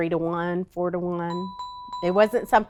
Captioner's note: ding